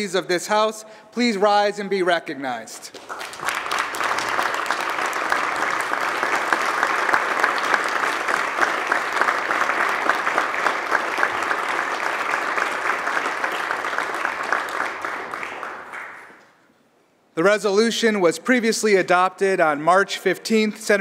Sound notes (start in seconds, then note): 6.8 applause